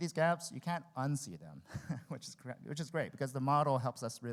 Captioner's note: laughs